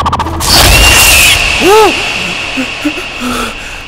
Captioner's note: Whimpering